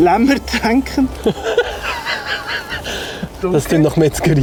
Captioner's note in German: lacht